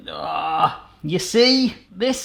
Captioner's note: groans